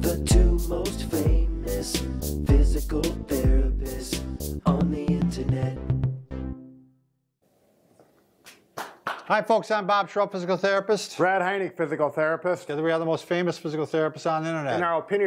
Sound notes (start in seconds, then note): 8.4 hands clap